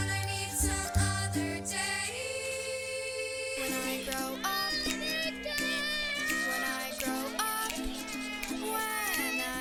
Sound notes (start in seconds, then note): 4.4 children yelling